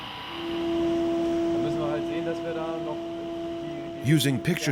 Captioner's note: man speaking German